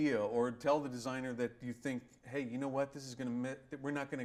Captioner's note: none